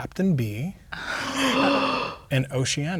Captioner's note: players gasp